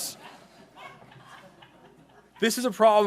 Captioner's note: laughing